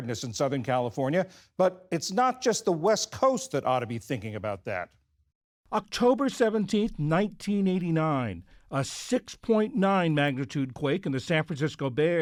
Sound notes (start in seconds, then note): 6.5 voice-over